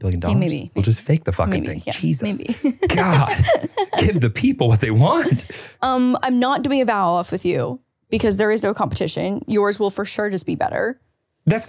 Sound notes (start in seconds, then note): 2.3 laughs